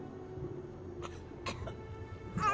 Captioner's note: cough